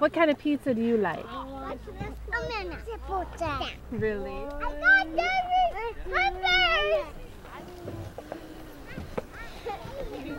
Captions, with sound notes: What kind of pizza do you like? [child shouting]